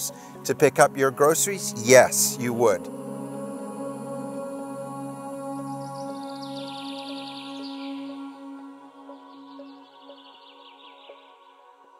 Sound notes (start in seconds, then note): 3.6 gentle music; 5.6 birds chirping; 8.7 soft rhythmic music